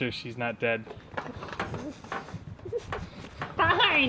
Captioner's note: giggling